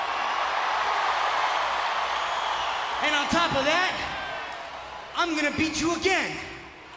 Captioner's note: applause